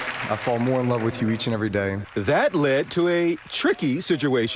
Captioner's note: applause